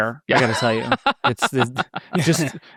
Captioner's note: participants laughing